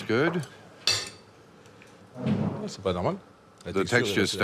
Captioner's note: utensils clattering